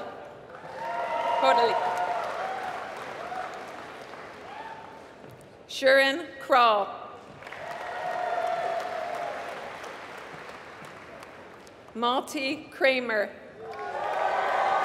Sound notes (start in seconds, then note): 2.6 applause; 7.3 applause